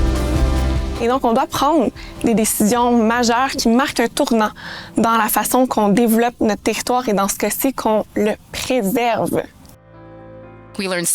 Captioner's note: speaking French